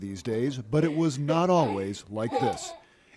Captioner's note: laughter